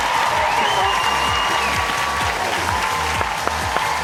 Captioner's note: applause